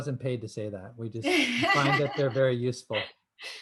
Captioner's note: laughter